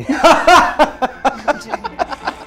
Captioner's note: laughing